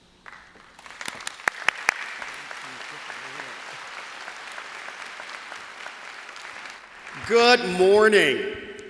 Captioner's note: applause